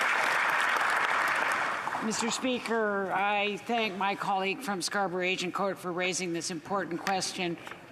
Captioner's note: applause